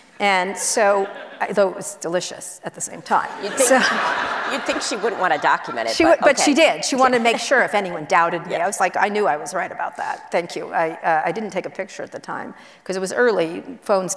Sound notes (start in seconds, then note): 3.3 audience laughs